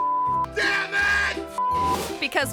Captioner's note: beep